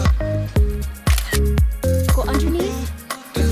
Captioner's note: camera shutter clicking